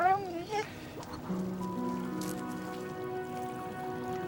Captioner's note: whimpering